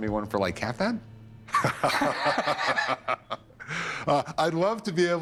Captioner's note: laughing